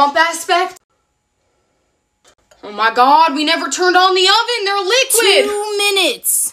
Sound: southern accent

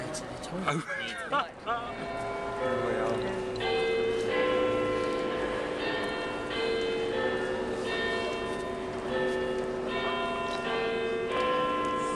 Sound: of the Westminster bells chiming including the sound of Big Ben

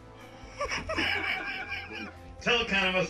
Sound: laughs

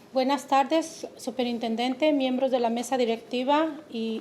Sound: speaking Spanish

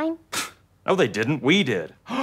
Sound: scoffs

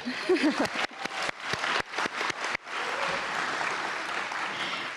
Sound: audience applauding

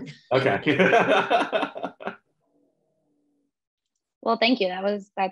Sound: laughs

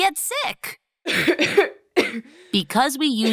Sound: coughs

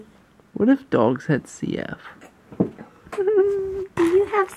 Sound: laughs

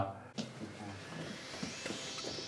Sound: footsteps

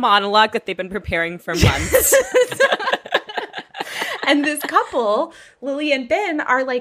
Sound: laughing

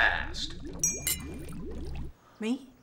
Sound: glass clinking

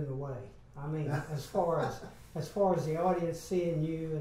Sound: laughs

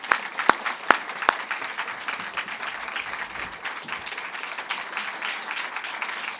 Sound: applause

